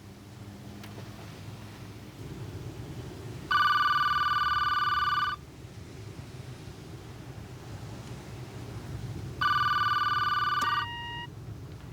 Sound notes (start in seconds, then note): 3.5 phone rings; 9.4 ring; 10.5 click, beep